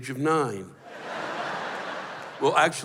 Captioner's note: laughter